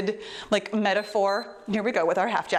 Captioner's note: timer beeps